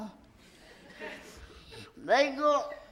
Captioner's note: light laughter in audience